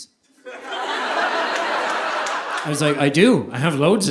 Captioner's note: audience laughing